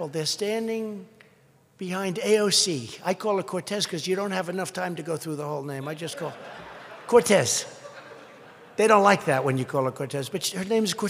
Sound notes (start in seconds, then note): 6.0 laughter